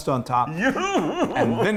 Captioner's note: chuckling